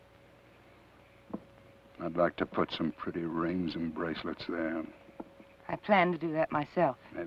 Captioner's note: none